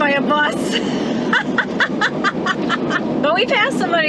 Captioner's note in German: Gelächter